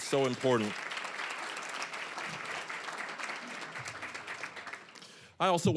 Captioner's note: applause